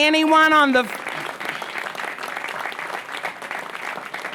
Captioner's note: applause